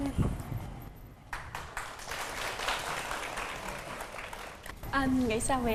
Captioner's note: applause